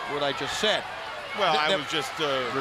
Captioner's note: crowd chatter